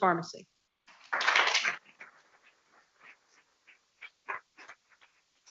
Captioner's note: people clapping